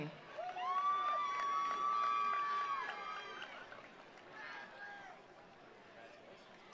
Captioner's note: attendees cheering; attendees applauding